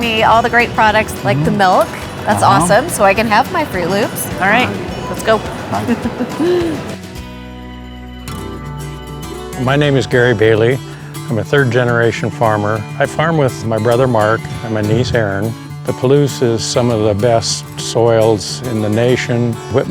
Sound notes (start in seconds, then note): 5.3 laughing; 7.0 upbeat music